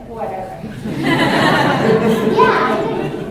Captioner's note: laughter